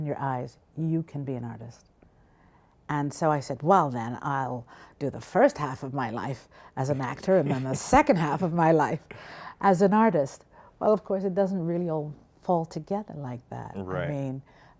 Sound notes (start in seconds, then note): 6.8 laughs